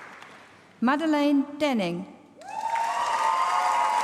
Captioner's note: applause